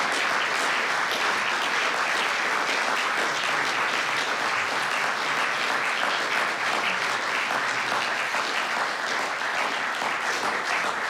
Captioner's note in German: Applaus